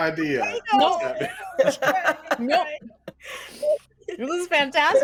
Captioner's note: everyone laughs